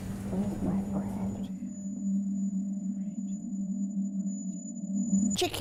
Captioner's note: sound like ringing in ears